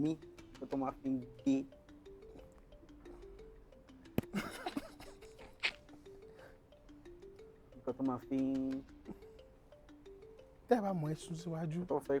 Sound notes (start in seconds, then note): 2.2 laughs